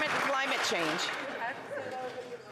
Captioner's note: some Applause